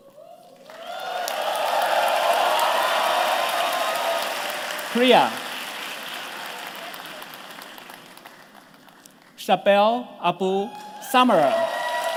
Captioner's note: cheers